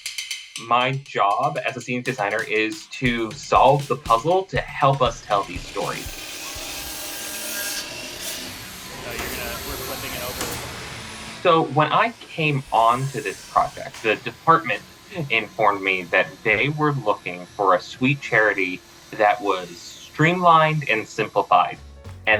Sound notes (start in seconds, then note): 6.3 buzzsaw whirring